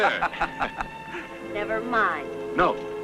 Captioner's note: laughing